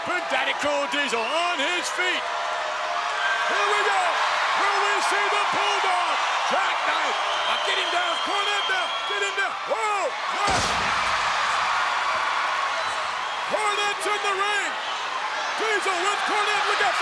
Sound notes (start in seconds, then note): 10.4 body thuds